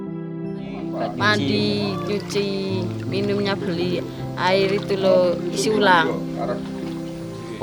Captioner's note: speaking Indonesian